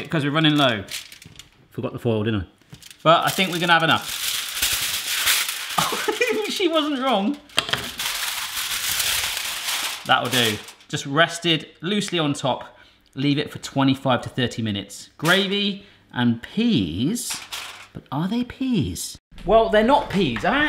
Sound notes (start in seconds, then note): 4.4 foil crinkles; 5.8 laughs; 7.7 foil crinkles